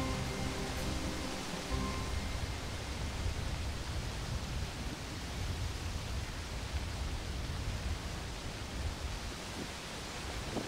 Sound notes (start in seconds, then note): 0.0 song ends; 3.9 sound of wind